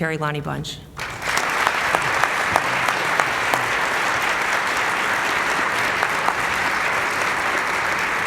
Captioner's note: applause